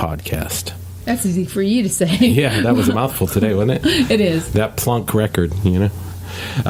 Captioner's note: laughs